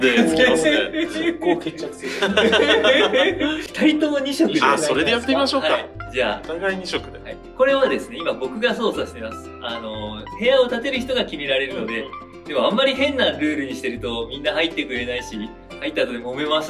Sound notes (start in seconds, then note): 0.0 laughs; 1.9 laugh